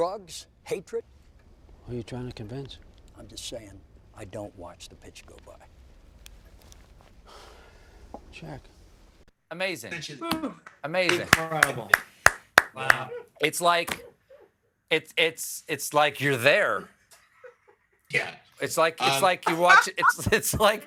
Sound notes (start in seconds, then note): 7.2 sighs; 11.0 applause; 19.9 laughter